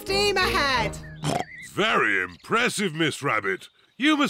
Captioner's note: oinks